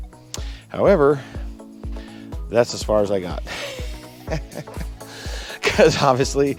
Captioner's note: laughs